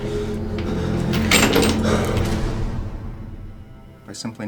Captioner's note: chains clanking